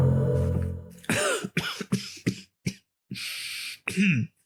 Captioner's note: Richard coughs